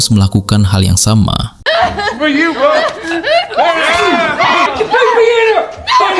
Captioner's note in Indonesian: tertawa